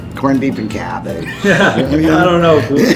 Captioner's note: laughing